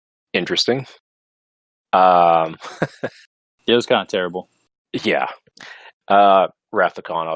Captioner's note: laughs